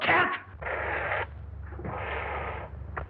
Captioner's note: hiss